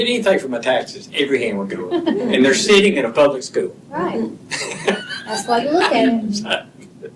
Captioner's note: laughter